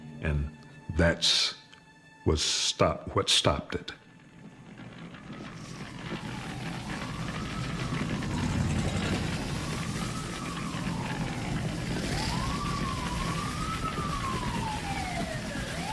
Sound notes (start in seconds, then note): 4.1 sirens